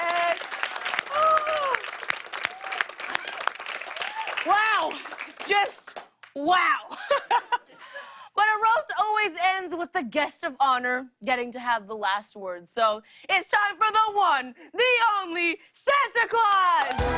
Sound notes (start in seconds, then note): 6.3 laughs